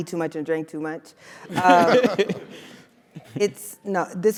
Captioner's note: laugh